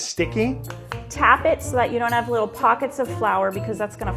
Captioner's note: claps